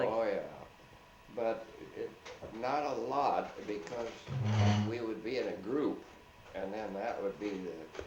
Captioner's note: chair slides